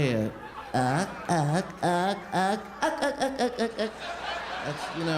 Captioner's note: imitating muttering